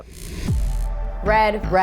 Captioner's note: neon sign buzzes